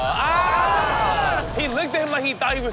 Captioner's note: audience groans